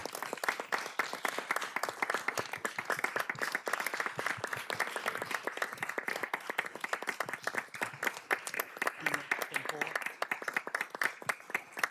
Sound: applause

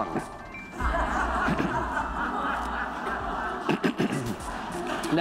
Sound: audience laughs

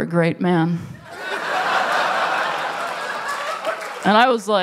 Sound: laughter

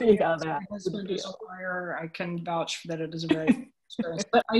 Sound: audio warps

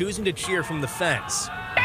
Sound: notes:nats of mom cheering

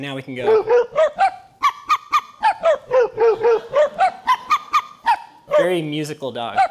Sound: high and low pitched dog barking

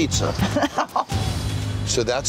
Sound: woman laughs

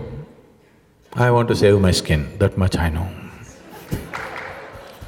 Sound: laughs

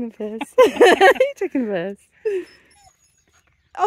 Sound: laughing

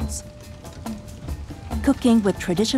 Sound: fire crackling

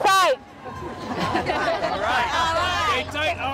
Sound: laughing

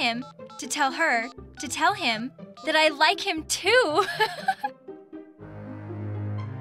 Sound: giggle

